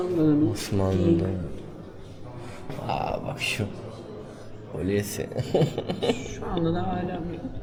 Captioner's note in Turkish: kahkaha